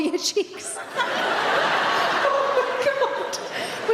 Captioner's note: audience laughs